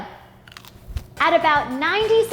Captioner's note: crunching